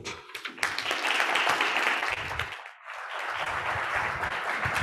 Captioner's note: audience applauds